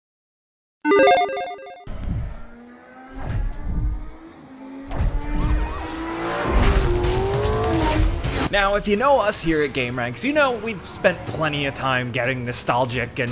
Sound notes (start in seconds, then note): 0.8 logo beeps; 1.9 engines revving